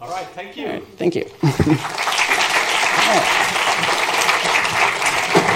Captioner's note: applause